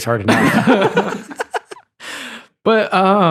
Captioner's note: laughing